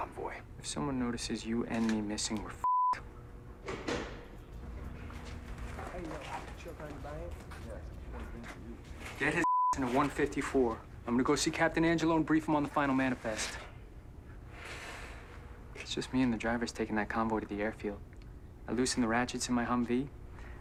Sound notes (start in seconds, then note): 3.6 door closes; 4.3 chatter upstairs